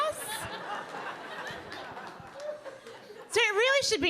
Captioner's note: audience laughing